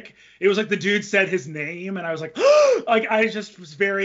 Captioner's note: inhales